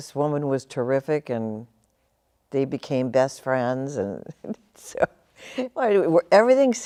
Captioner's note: chuckles